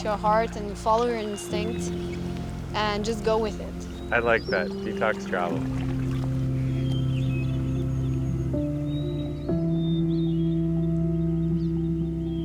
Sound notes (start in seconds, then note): 5.6 birds singing; 5.6 peaceful music